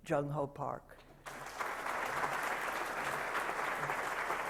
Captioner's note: applause